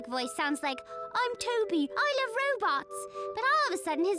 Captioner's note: british accent